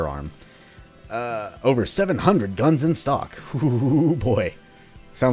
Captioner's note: excited chuckling